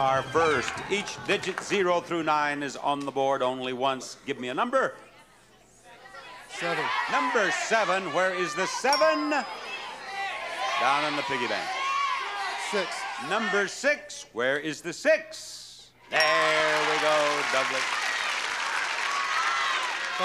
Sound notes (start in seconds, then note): 5.6 audience murmuring; 9.4 audience murmuring; 12.2 audience murmuring; 17.8 audience clapping; 17.8 audience murmuring